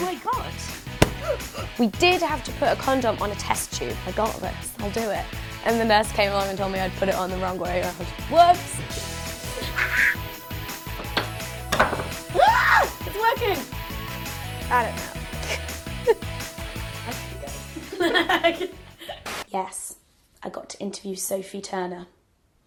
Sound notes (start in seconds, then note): 9.6 laughs loudly; 12.3 screams; 17.8 laughs loudly